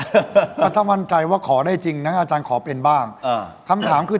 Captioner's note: laughs